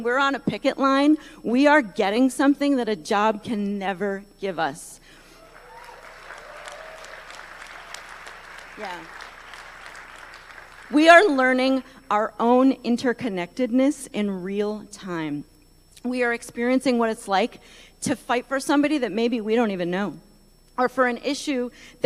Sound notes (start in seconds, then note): 9.9 applause